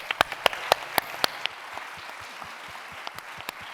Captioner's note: applause